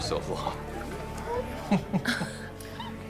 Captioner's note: laughing